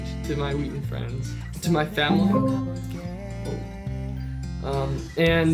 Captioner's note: Alexa notification